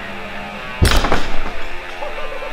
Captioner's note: energetic rock music; cable snaps; laughing